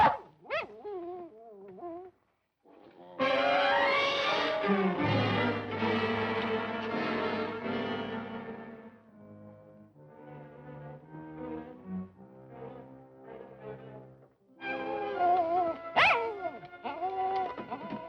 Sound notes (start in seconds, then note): 0.0 dog barking, whining; 15.2 dog whining, barking